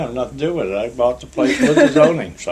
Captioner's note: laughter